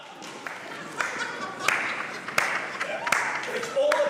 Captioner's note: laughing